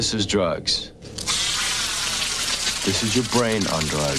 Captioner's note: sizzling